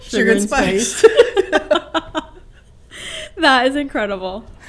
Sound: laughs

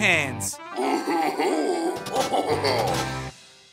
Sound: laughing

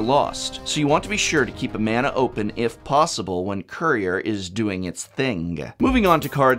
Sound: hard G sound

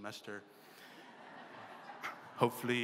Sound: laughter

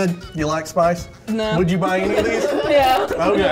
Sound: laughter

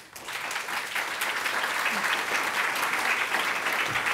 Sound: applause

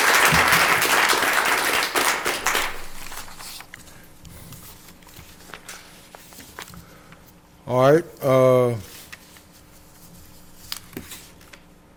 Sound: applause

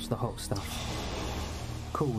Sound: water Siseling

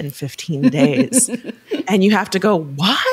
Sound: chuckling

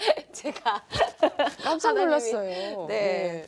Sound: laughs

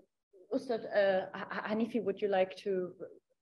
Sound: speaks in Dari

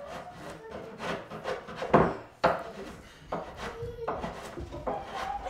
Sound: boy laughing from other room

